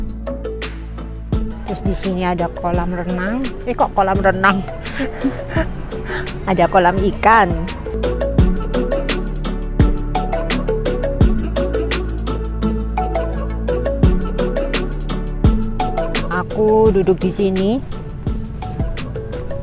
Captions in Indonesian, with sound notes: Terus di sini ada kolam renang... Eeeh kok kolam renang... (tertawa) Ada kolam ikan Aku duduk di sini